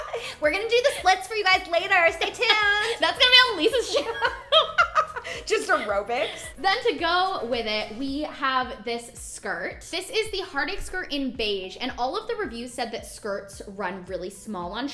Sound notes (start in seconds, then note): 3.8 laughter